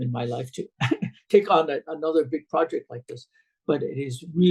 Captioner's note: laughs